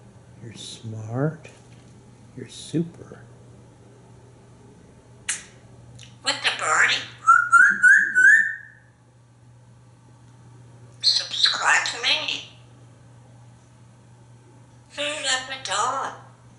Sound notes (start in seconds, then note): 5.2 sneeze; 7.2 birdie sounds